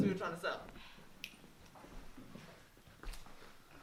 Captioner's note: snaps